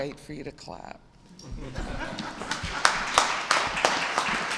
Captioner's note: applause